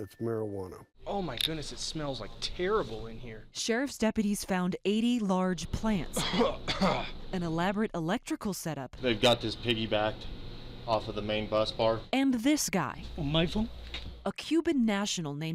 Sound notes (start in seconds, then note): 6.1 coughing